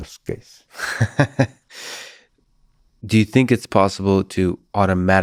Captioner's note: laughs